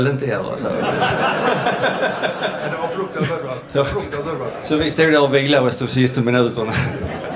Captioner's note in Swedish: Skratt